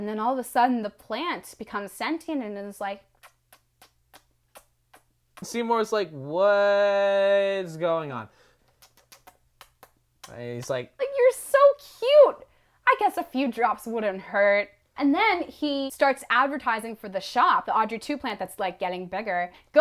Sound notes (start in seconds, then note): 3.0 kissing noises; 8.6 more kissing noises